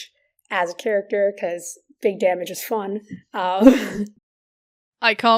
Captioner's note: laughs